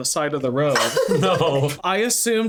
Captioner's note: laughing